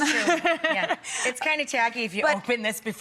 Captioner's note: laughter